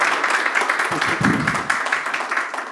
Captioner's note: laughter and applause